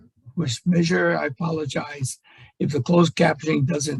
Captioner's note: voice muffling